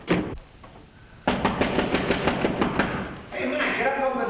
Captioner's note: knocking at door